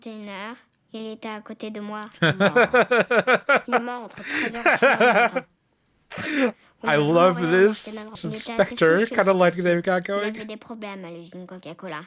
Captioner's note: laughs